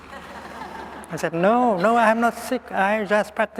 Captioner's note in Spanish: Risas